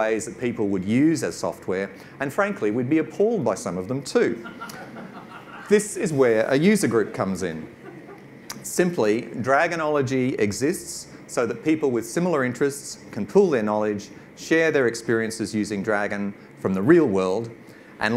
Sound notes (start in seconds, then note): 4.4 audience laughs